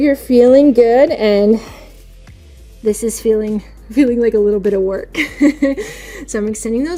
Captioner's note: chuckling